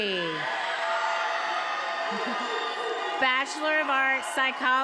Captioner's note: attendees applauding and cheering